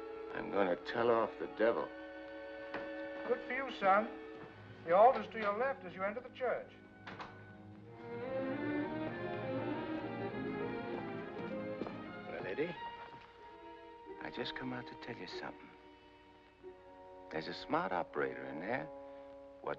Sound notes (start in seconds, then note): 7.0 door closes; 7.8 dramatic sentimental music